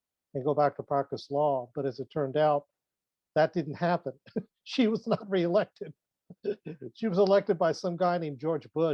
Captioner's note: laughs